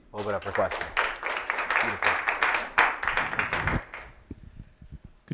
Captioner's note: applause